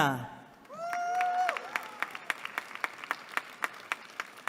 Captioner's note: applause